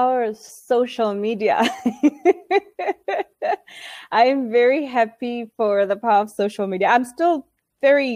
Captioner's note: laughing